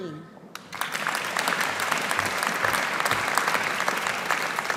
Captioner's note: audience applauding